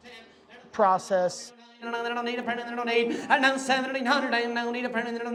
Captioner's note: auctioneer chanting